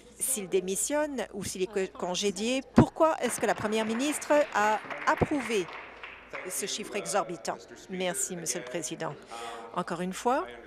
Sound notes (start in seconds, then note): 8.2 applause